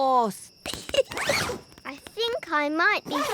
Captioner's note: giggles